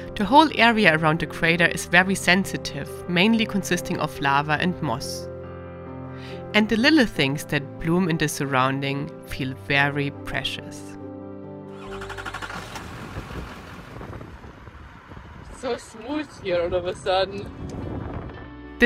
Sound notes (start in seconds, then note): 11.7 vehicle starting